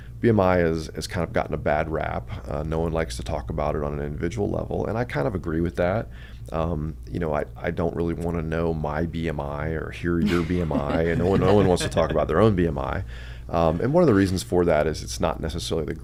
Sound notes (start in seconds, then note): 10.2 laughs